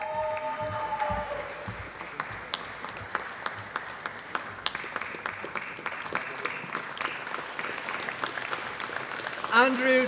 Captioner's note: applause